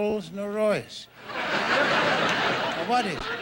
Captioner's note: audience laughing